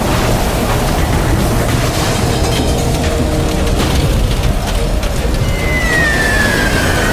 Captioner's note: total destruction roaring